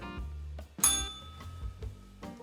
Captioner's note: bell rings